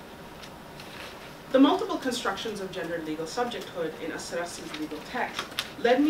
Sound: Arabic

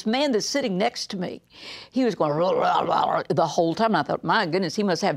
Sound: gurgling

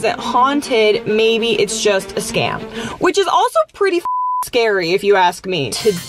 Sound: beep

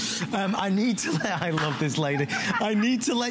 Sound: laughter

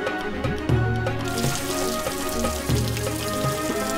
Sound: water pouring

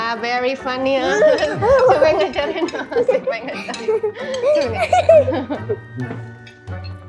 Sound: laughter

